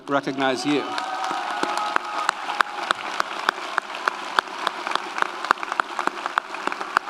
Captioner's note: audience applauds; audience cheers